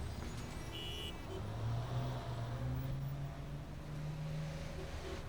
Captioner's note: horns honking